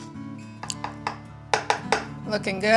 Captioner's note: whisk tapping